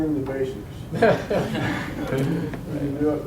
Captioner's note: audience laughs